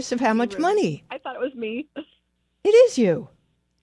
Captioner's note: laughs